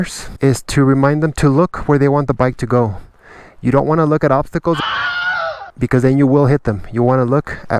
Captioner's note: scared scream